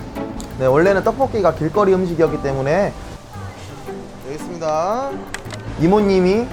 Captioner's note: speaking in foreign language